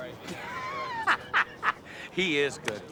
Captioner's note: laughing